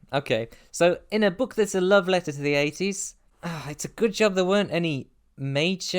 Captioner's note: sigh